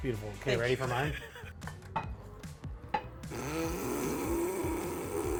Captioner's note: laughs